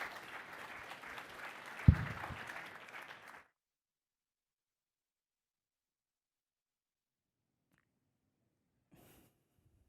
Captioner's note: ap plause